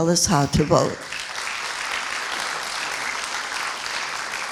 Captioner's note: applauding